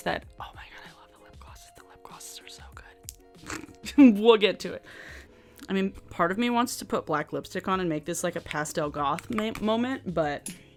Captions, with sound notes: that oh my God, I love the lip glosses the lip glosses are so good. (chuckles) We'll get to it. I mean part of me wants to put black lipstick on and make this like a Pastel Goth moment, but